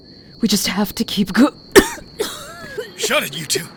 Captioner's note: Emily continues retching and vomiting